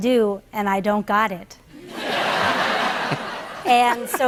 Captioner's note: laughter